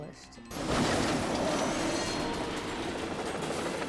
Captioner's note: metal crinkling